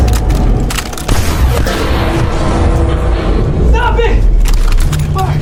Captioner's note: metal clanking; guns firing